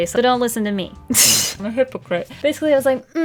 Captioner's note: tsss